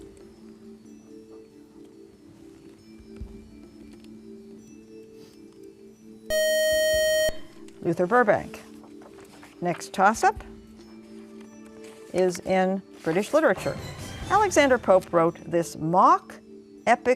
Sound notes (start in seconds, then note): 6.3 buzzer